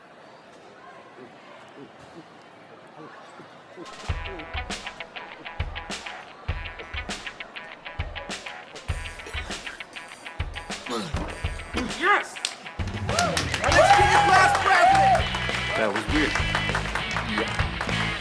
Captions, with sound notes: (Ezra gulping) (lively music) - Yes! Let's give it up for your class president! - That was weird. - Yeah.